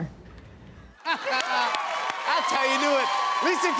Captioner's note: cheers and applause